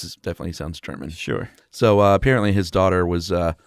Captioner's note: voiceover